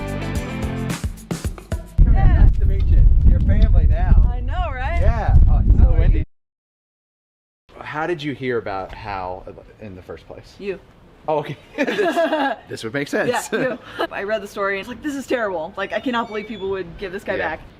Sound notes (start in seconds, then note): 11.7 laughs